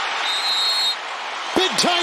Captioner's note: whistle